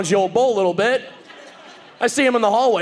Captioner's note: audience laughing